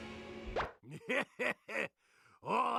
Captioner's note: laughing